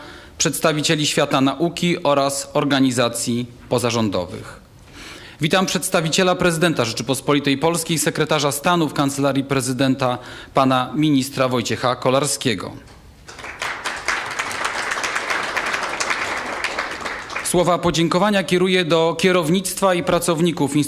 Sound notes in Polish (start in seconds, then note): 13.2 oklaski